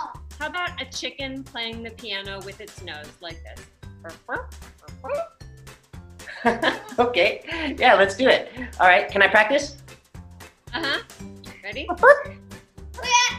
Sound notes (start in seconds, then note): 4.0 chicken sounds; 12.4 chicken noises